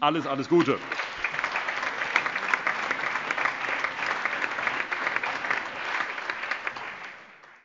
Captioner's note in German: Allgemeiner Beifall